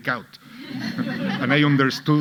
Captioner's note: audience laughing